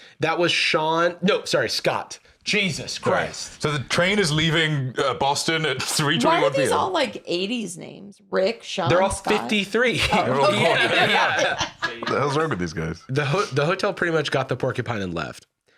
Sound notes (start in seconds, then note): 9.9 laughs